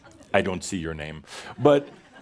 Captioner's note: more chuckles